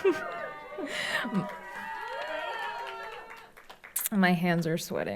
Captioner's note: laughs; audience applauds